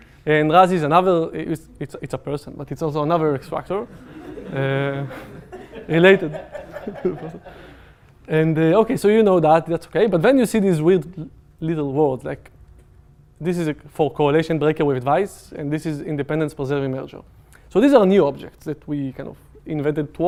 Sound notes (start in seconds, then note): 3.9 laughter